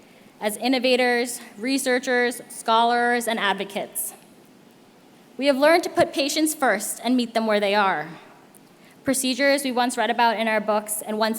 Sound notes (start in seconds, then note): none